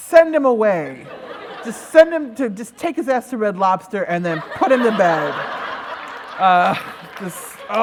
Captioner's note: laughter